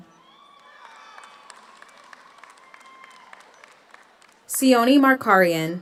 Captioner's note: audience cheers; audience applauds